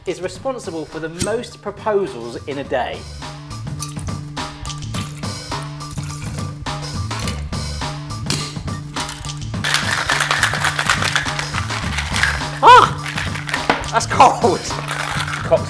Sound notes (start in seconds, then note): 4.0 upbeat music; 9.6 cocktail shaker rattling